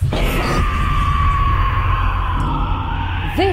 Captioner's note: screaming